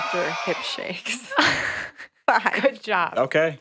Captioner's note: chuckles